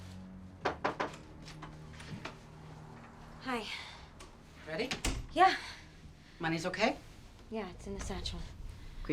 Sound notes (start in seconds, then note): 0.0 dark brooding music; 0.6 knock on door